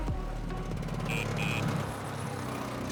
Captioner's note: horn honks